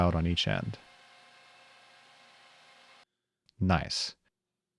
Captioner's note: machine whirring